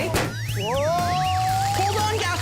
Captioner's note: baloon pop